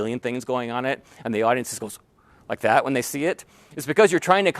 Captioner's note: gasp